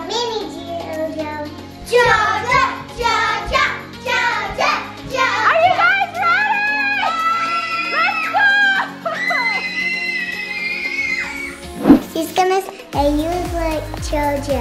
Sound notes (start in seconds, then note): 2.0 kids cheering; 5.1 kids screaming